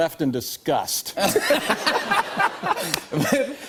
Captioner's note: laughter